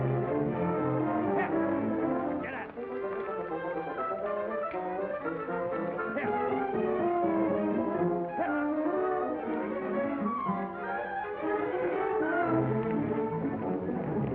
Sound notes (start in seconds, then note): 0.0 triumphant music; 1.3 yells at mules; 2.9 dramatic whimsical music